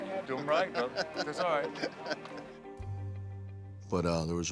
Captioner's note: Bautista laughs